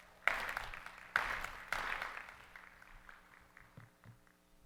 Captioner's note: audience applauding